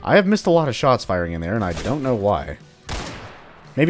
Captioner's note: gunfight continues